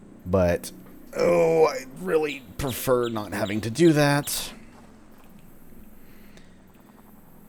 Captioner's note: stretching/groaning